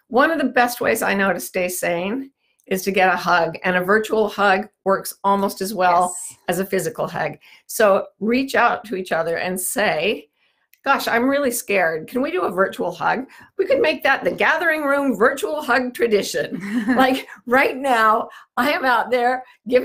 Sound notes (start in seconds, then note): 16.5 laughs